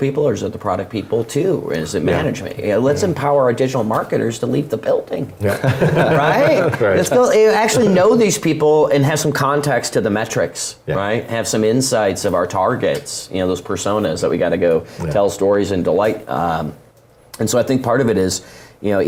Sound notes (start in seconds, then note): 5.5 laugh